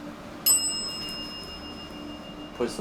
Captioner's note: ベルが鳴る